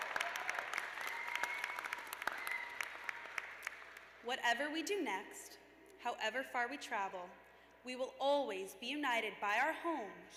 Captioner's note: cheers and applause